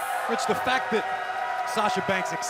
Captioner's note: cheers & boos